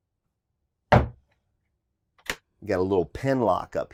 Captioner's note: drawer thuds